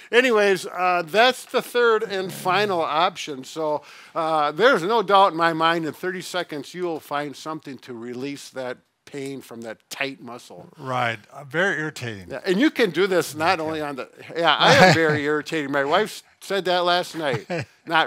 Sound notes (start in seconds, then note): 14.6 laughing